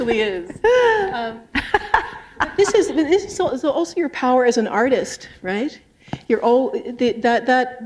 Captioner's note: laughter